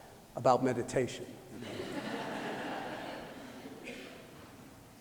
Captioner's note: laughter